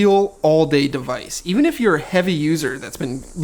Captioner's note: cicadas buzzing